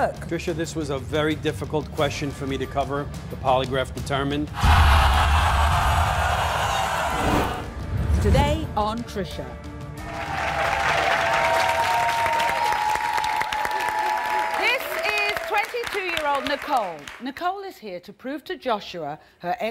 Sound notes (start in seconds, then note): 4.6 audience gasping; 10.0 audience applauding